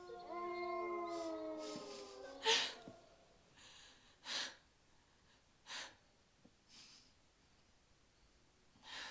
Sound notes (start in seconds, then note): 4.2 sobs